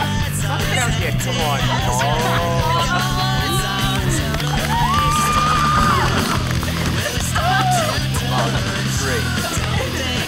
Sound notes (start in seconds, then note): 4.4 group claps and cheers